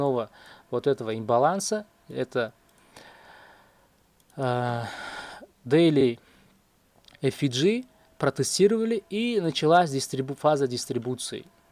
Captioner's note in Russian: вздыхает